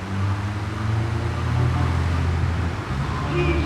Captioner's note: tires screeching